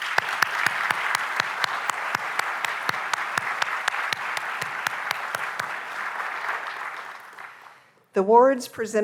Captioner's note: applause